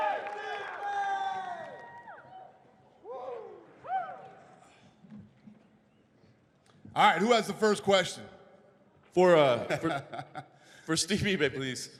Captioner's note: cheers and applause